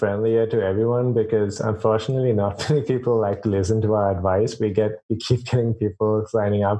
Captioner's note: laughs